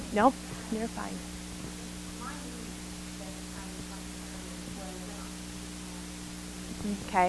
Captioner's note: microphone feedback drowns out audience member